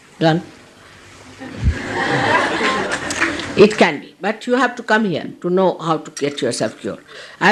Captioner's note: laughter